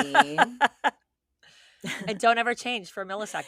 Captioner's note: laughing